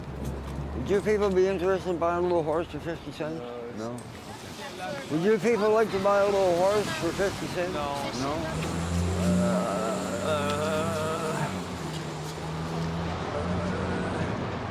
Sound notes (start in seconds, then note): 9.0 humming